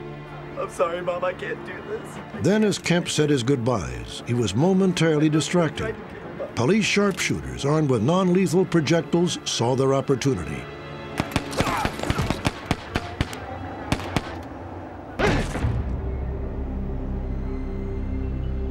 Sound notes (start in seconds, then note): 11.1 gunfire